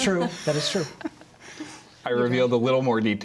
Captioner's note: laughter